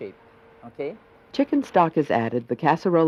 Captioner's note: voiceover